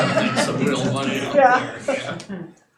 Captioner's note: audience laughing